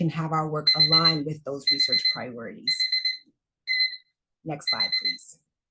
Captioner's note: alarm beeping